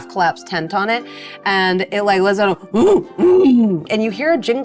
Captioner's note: grunts